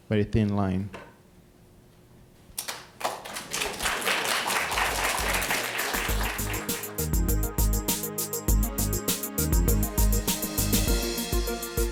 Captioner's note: applause